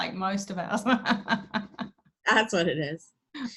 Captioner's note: laughs